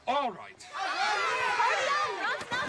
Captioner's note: cheering